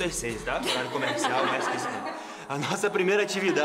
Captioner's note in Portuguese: risos